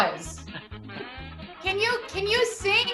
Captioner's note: laughs